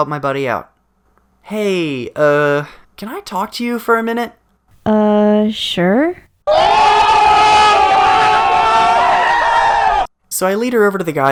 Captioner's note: friends screaming